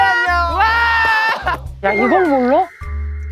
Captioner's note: claps not knowing what it is